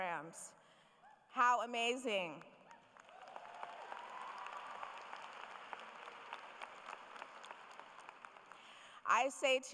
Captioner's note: applause